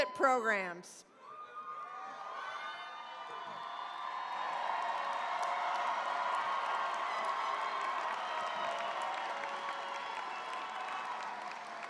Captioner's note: cheering, applause